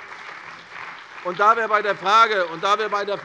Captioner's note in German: Beifall bei der CDU und dem BÜNDNIS 90/DIE GRÜNEN